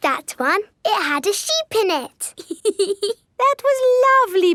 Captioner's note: laughs